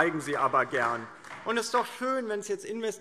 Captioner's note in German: Beifall DIE LINKE